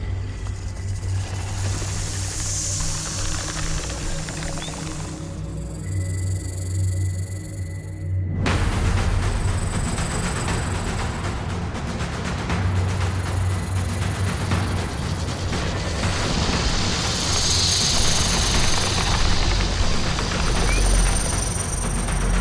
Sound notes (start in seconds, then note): 0.3 snake rattles; 0.6 snake hisses; 8.4 tense suspenseful music; 17.1 snake hisses; 17.1 snake rattles